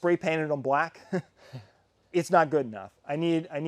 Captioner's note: man chuckling